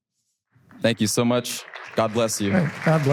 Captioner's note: audience applause